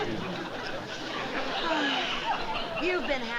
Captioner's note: sighs